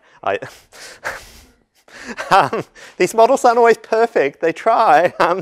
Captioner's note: laugh